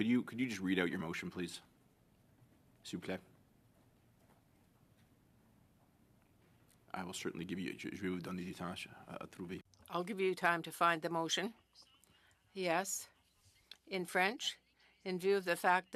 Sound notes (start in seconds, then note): 13.4 speaking French